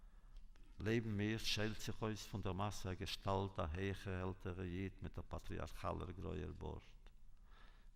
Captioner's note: Yiddish